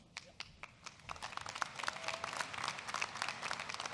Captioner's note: applause